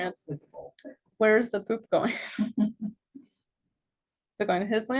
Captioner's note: chuckles